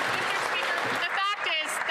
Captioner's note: applause